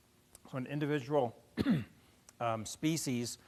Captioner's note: cough